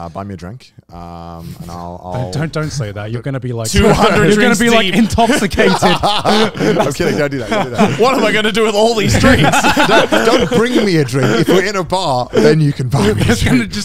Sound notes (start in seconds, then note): 5.9 all laughing